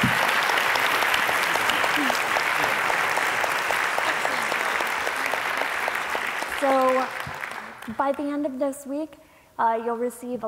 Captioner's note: applause